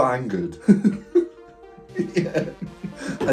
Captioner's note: laughs